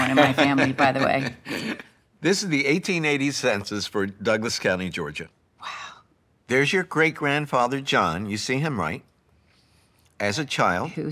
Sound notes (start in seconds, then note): 0.0 laughs; 5.7 whispering